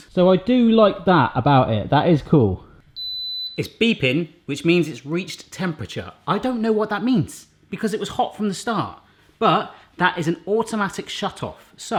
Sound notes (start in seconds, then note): 3.2 toaster beeps